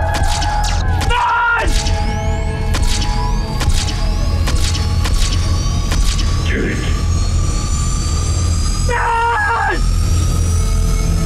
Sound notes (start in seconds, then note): 2.1 SOUND: Ship lifting off into Tatooine's sky